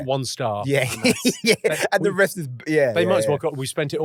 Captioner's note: laughing